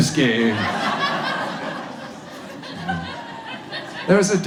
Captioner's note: audience laughs